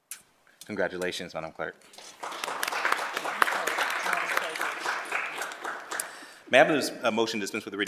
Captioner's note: applause